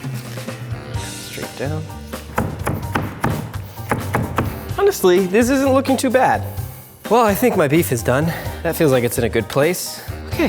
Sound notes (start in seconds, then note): 2.3 loud chopping